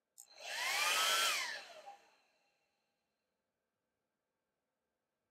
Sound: hairdryer turning on & off

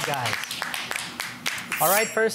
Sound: applauding

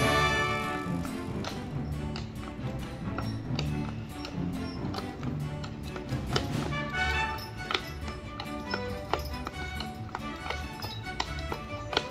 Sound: clip-clopping sound of horse hooves on the street

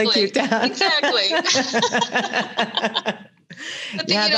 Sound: both laugh

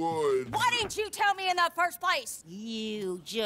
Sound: yells

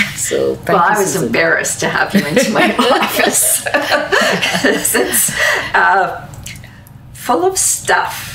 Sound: both laugh

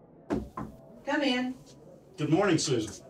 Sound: knocking

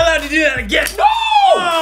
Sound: snaps

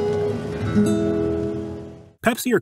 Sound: sound of commercial

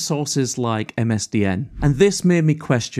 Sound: screen whooshes

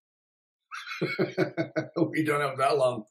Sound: laughs

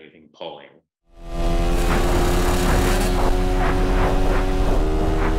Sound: motorcycle engine roaring

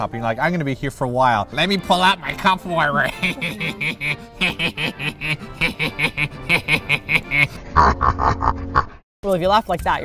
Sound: nerdy laugh

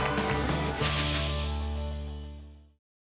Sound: whoosh

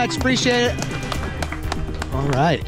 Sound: crowd applauding

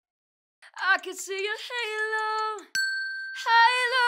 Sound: bell dinging

